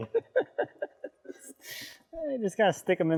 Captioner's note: laughing